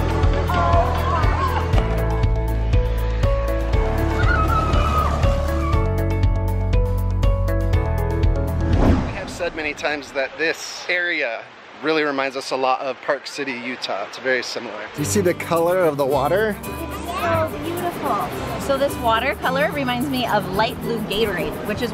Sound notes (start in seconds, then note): 0.3 bright music; 4.3 yells